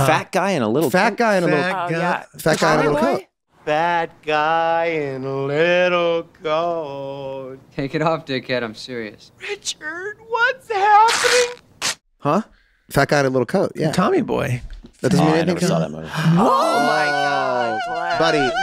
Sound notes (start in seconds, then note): 11.0 coat tearing